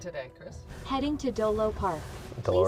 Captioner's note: automated voice in car